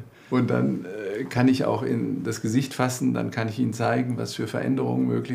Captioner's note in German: none